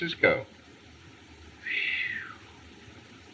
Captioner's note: whistle